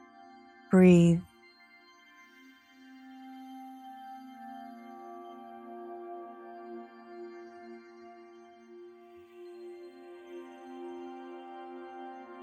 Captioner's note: silence